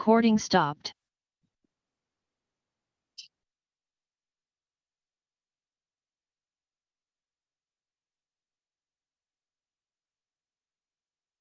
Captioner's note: recording stopped